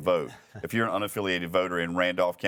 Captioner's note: panelist chuckles